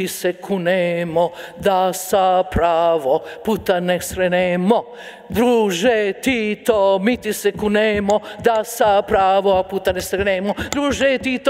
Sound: speaking in a foreign language

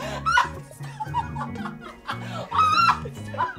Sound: Efosa laughs hysterically

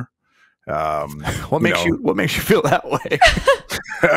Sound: laughs

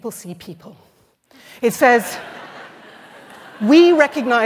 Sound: laughter

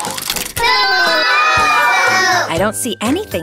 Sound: audience booing

